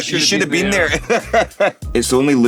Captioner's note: laughing